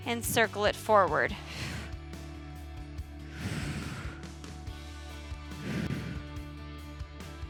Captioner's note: upbeat music continues; exhaling